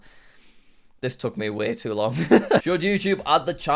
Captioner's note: chuckles